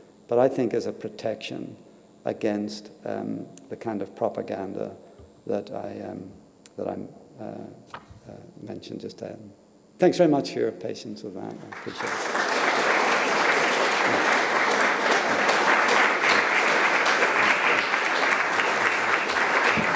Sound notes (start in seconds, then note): 13.2 applause